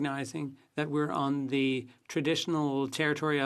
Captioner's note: speaking French